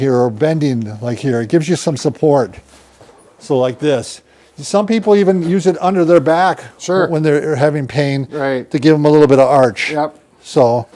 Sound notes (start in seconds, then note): none